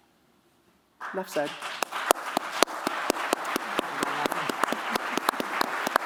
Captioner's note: applause